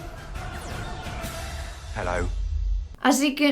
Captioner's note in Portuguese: em inglês